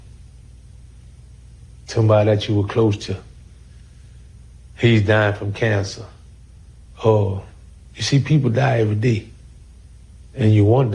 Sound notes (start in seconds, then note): none